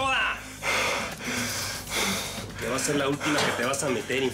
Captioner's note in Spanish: Respiración rápida